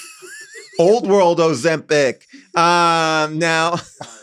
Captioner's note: laughs; laughs; everybody laughs